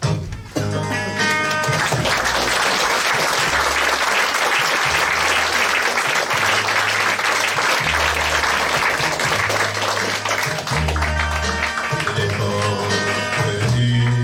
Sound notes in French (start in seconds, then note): 1.2 applaudissements